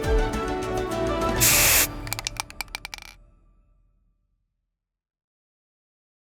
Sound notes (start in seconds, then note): 1.4 spray paint hissing; 1.4 bottle clicking